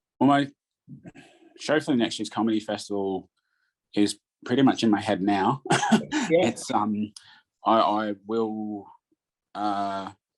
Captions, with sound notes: - Well, my show for the next year's comedy festival is pretty much in my head now. (laughs) I will